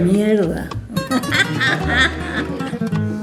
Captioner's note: laughter